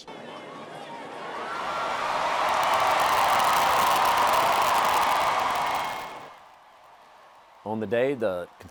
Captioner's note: applause and cheers